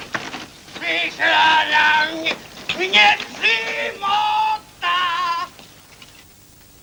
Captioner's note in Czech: opile huláká